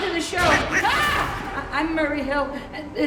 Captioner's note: screams